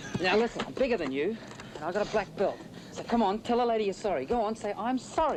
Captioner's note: none